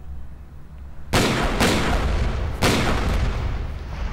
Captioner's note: gun shots